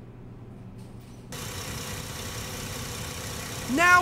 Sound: engine revving

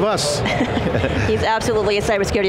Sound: laughing

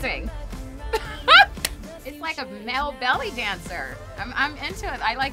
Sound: chuckles

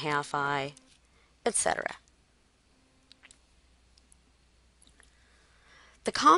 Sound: silence

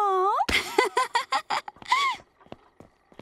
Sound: laughing

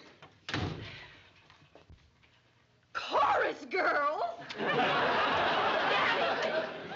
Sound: sighs

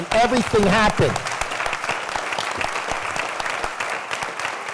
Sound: applause

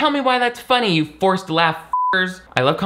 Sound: beep

